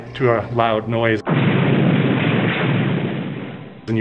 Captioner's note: crashing